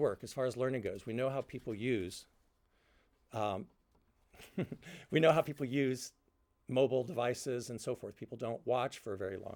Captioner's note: laughter